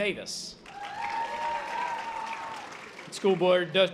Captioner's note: audience applause